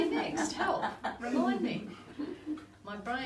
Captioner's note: group laughs